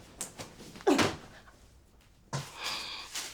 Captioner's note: grunts; sighs